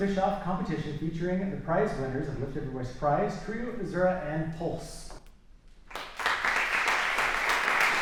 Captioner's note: applause